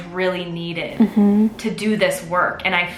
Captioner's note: humming affirmatively